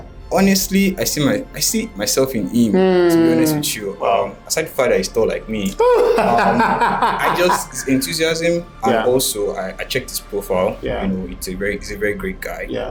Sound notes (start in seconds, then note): 5.7 laughs